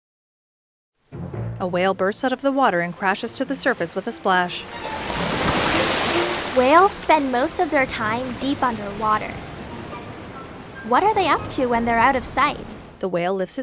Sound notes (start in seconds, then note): 1.2 dramatic music; 1.2 water splashing; 13.4 uptempo music